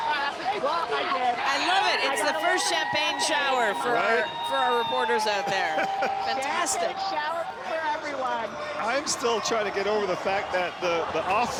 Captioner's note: cheering